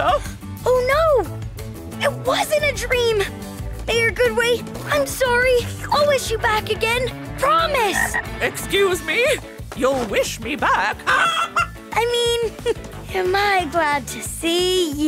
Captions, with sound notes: Oh, no. It wasn't a dream. Mayor Goodway, I'm sorry. I'll wish you back again. Promise. Excuse me. You'll wish me back? [clucking] I mean, am I glad to see you?